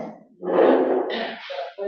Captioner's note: coughs